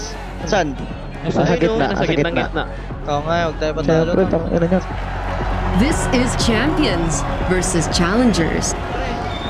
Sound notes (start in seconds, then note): 5.1 in English